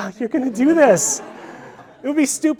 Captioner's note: audience laughing